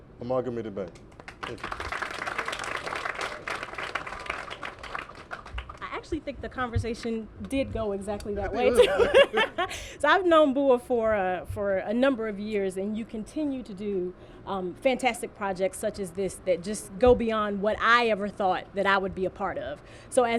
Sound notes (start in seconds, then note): 3.7 applause; 8.7 laughter